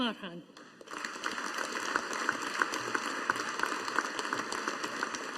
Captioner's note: audience applauding